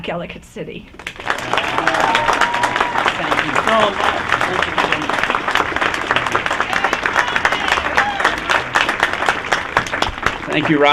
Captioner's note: applause